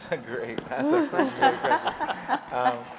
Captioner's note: audience laughing